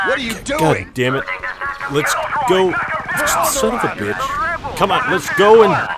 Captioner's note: clone troopers yelling constantly